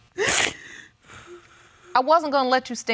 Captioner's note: crying